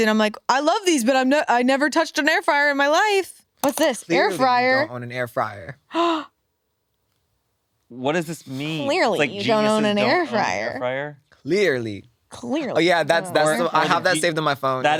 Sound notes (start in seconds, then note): 5.9 gasps